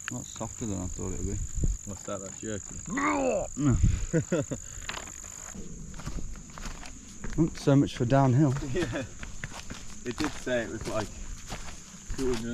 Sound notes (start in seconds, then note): 2.8 gags; 3.5 chuckles